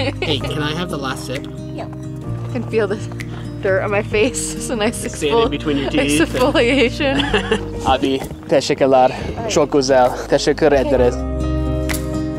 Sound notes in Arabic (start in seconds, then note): 8.3 يتحدث التركية